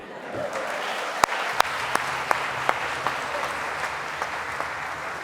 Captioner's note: audience applauding